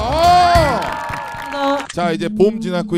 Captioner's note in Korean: 짝짝 x10